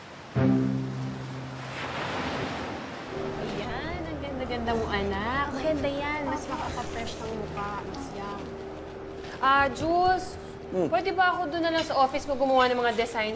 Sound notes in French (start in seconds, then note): 0.0 waves splashing